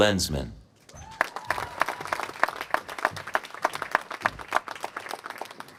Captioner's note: applause